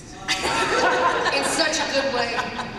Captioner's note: laughter